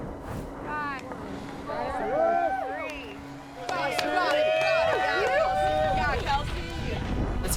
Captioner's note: crowd cheering